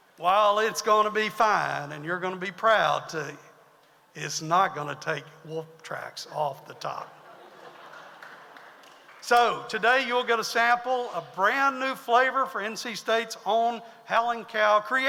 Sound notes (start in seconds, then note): 7.1 audience laughs